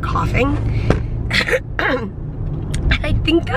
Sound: clearing throat

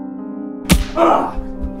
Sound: smack

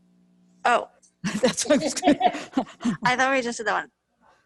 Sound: laughs

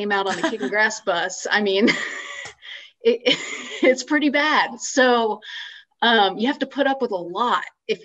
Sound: laughs

